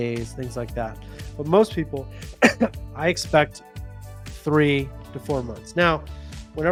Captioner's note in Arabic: يسعلون